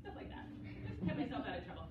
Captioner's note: laughter